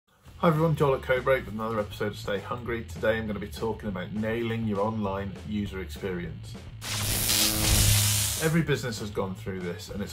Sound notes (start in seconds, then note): 6.8 electric buzz